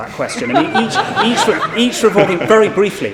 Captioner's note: everyone laughs